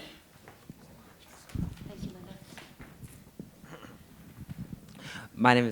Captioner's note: shuffling